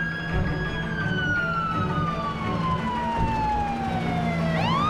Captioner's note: siren wailing; helicopter whirring